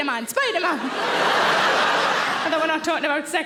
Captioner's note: audience laughing